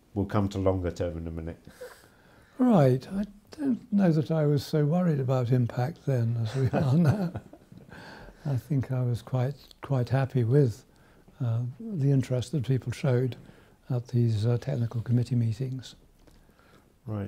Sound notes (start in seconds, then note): 6.4 chuckles